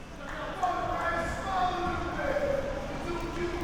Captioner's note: man shouting